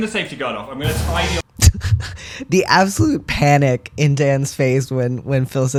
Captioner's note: laugh